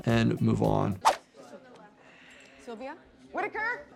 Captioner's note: hospital staff chattering